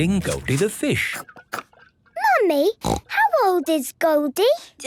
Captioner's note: snorting